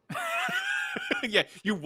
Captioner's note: laughs